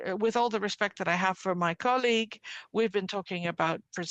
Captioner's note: speaking French